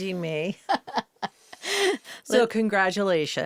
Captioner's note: interviewer and Zoe laugh